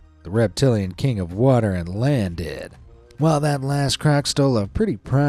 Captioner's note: none